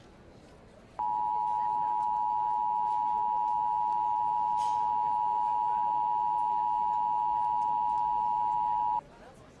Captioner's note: attention tone